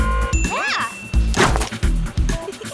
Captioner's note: ding